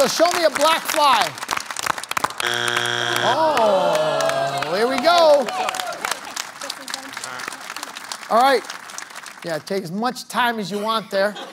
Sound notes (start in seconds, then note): 2.4 buzzer sounds; 3.2 audience groans; 10.7 laughter